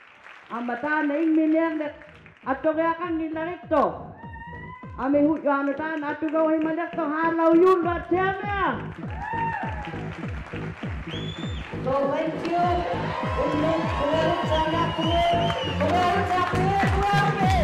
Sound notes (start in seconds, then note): 0.0 applause; 4.0 speaking alternate language; 11.3 applause